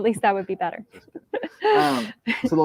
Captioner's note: laughter